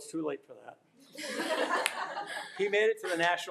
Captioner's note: attendees laughing